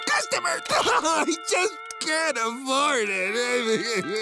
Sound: crying

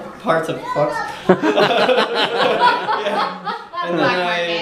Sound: laughing

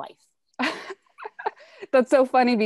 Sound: laughing lightly

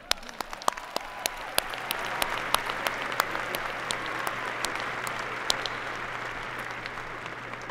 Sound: applause

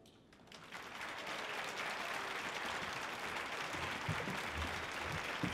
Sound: audience applauding

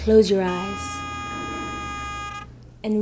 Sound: car horn honking

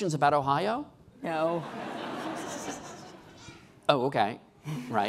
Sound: laughing

